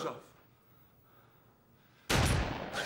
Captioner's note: gunshot